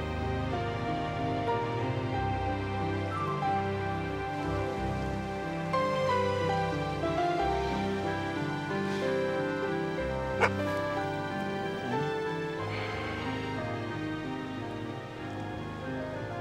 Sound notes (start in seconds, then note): 10.3 barking